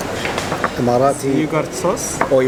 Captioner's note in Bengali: বিদেশী ভাষা